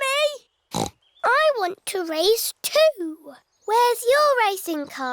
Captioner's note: snorts